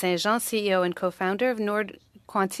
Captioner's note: speaking French